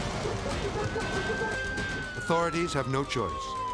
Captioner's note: sirens blaring; suspenseful music; sirens blaring